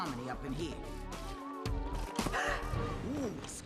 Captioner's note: gasps